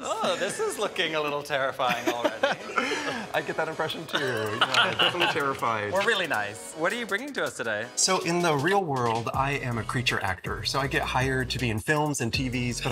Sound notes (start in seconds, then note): 1.9 chuckling; 4.1 all chuckling